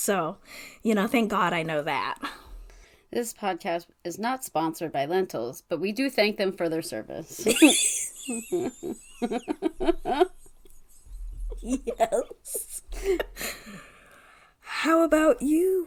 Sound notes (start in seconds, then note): 10.6 laugh